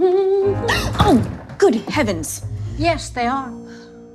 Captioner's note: woman hums; gasps